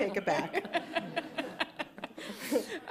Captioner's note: laughter